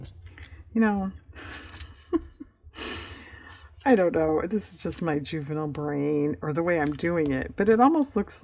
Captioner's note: laughs